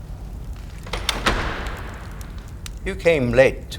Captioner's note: door closes